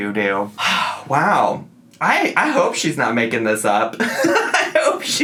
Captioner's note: laughs